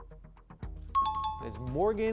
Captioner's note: pulsing music; high-pitched tones